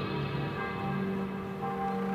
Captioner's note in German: Glockengeläut